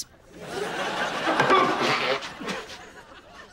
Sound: blowing nose

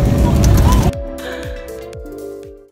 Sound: gasp

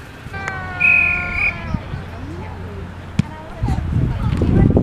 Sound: whistle blowing

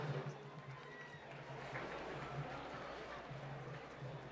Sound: applause

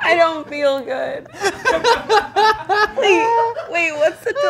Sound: group laughing

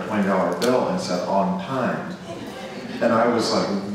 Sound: audience laughs

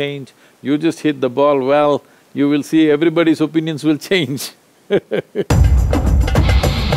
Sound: laughs

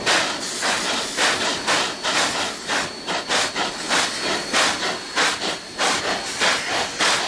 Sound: chugs from both locomotives

